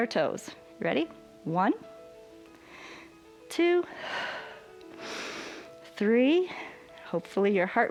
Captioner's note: exhales and inhales